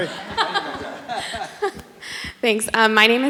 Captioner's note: audience laughs